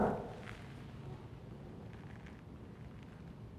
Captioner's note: knocks on door